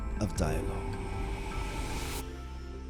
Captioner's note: intense whooshing